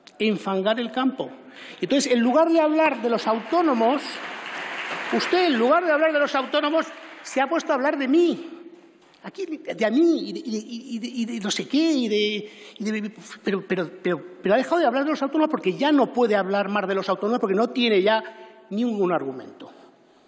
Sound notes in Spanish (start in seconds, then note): 2.0 Aplausos